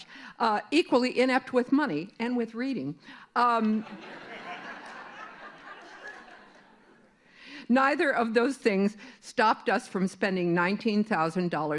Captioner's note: laughter